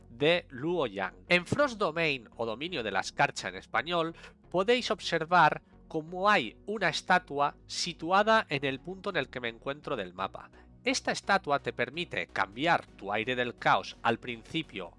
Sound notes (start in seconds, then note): 4.0 in Spanish